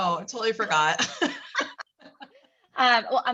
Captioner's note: laugh